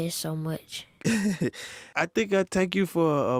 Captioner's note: laughs